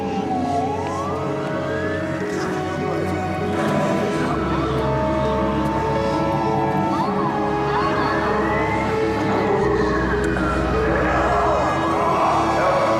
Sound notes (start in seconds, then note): 6.6 voices shout "elmo"